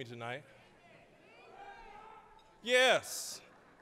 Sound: affirmative shouts from audience

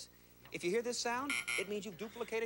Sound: buzzer

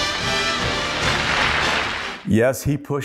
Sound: applause

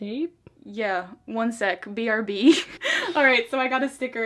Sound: laughs

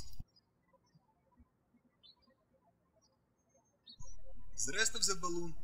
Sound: birds chirping

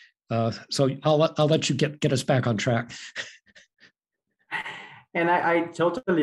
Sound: laughing

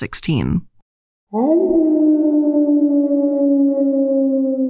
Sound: wolf howls

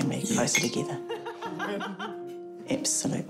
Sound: laughter

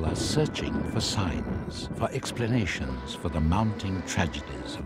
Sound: wind blowing swiftly

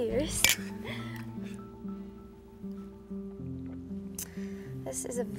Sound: glasses clink

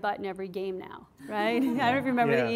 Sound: class laughs

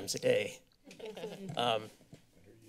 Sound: laughter

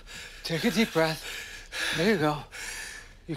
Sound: breathing slower

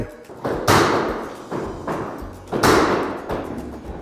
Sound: banging

